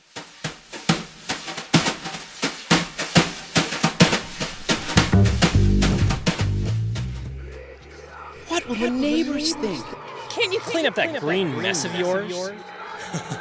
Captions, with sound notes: [Theme music] [Voices] What would the neighbours think? Can you clean up that green mess of yours?